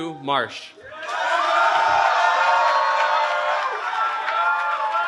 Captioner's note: cheering